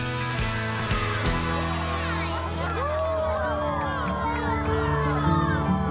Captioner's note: cheering